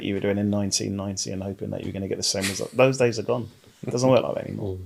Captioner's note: laughing